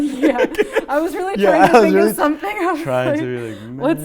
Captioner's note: laughing